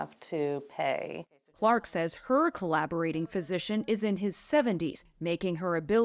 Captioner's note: voice-over